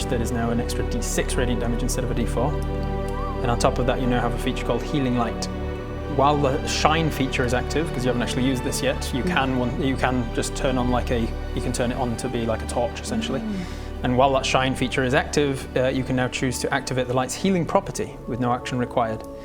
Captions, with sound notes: that is now an extra D6 radiant damage instead of a D4 *whistles* And on top of that you now have a feature called Healing Light While the Shine feature is active because you haven't actually used this yet you can just turn it on to be like a you can turn it on to be like a torch essentially *admiring hmm* And while that shine feature is active you can now choose to activate the light's healing property with no action required.